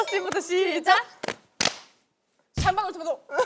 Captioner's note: clap; boom